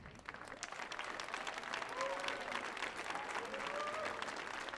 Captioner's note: audience applauding